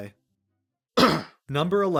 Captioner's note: cough